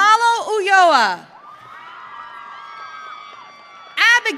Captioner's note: audience cheering